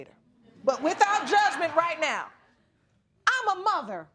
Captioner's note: audience laughing